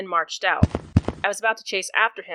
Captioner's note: marching shoes